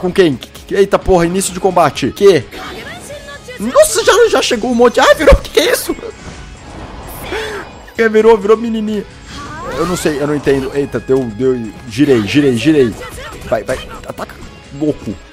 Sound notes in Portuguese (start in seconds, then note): 2.5 som do jogo